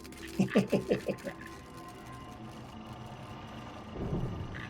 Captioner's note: chuckles